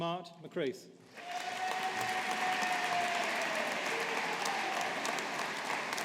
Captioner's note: audience applauding